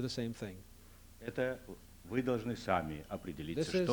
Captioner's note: non-english speech